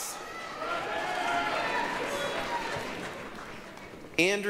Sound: applause, cheering

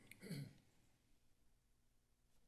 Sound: clears throat

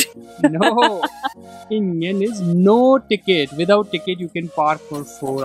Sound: laughs on her stupidity

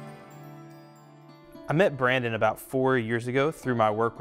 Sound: voiceover

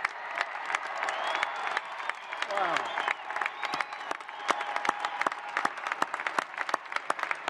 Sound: applause

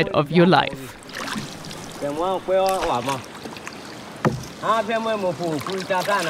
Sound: speaking foreign language

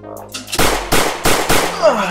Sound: bang! bang! bang! bang!

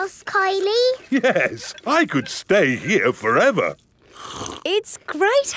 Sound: slurps

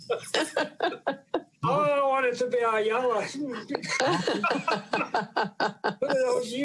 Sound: laughter

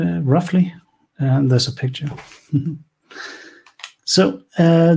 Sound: laughs quietely

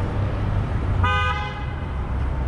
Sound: car honk

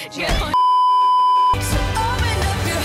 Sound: beeeeeep

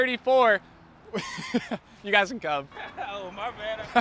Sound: laughs

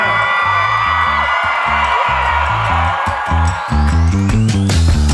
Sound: applause

